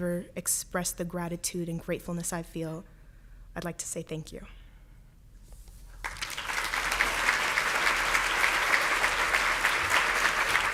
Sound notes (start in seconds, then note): 6.0 applauds